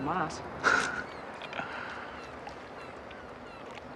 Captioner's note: laughing